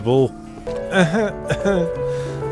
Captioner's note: coughing